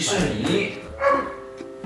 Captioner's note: woof!